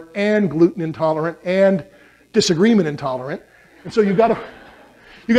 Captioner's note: laughter